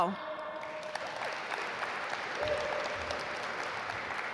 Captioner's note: audience applaud